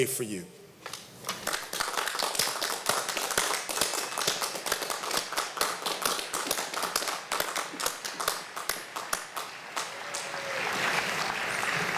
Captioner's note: applause